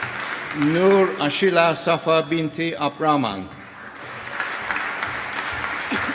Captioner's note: applause